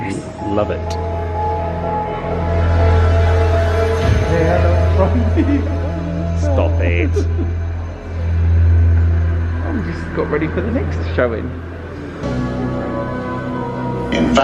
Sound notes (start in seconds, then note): 1.6 dramatic music; 5.0 laughing; 12.5 gentle music